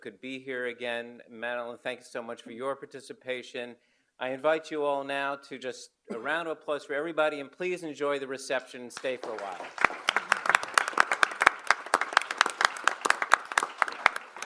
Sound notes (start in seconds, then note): 9.0 audience applaud